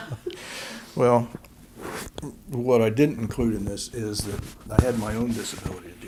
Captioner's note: laughter